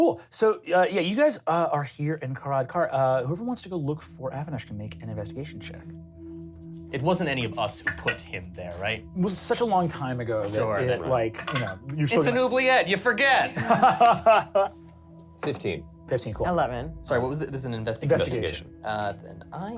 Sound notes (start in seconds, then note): 13.5 laughs